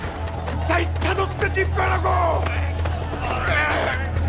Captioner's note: Thanos speaking in Korean; players grunting